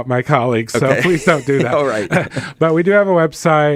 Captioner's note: laughter